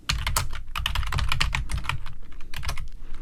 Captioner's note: typing